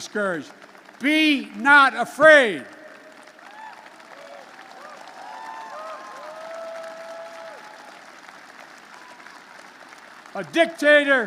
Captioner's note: applause